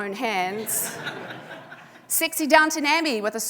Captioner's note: audience laughing